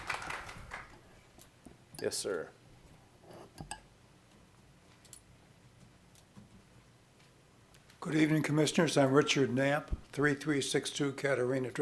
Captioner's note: applause